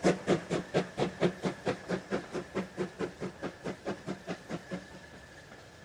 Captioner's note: train passes